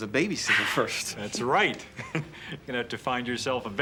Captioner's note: chuckles